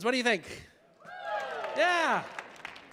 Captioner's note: audience applauding